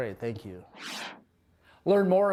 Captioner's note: whoosh sound